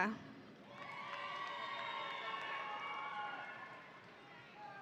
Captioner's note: audience cheering